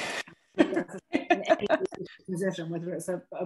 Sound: laughter

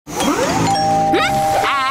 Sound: doorbell ringing

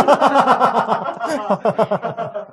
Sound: laughs

